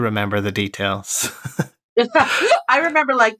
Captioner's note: laughter